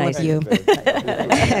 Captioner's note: laughter